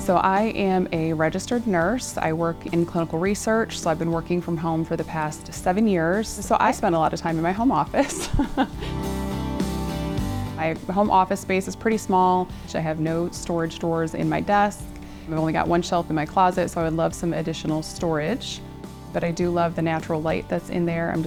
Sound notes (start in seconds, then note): 8.0 chuckles; 10.2 upbeat music